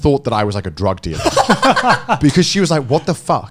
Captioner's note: laughing